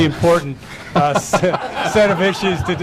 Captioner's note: laughter